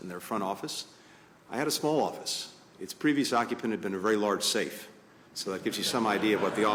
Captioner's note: laughter